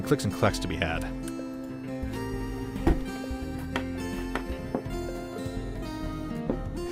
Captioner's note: satisfying clicks and taps